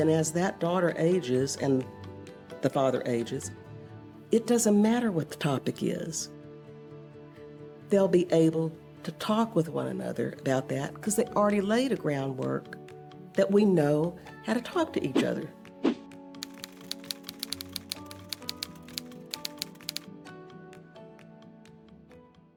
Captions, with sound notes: as that daughter ages and the father ages, it doesn't matter what the topic is. They'll be able to talk with one another about that. 'Cause they already laid a groundwork that we know how to talk to each other. (light music) (typewriter clacking)